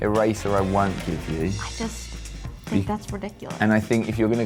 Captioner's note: none